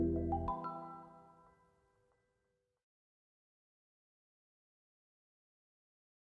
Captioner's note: silence